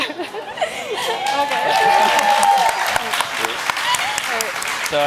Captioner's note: audience applauds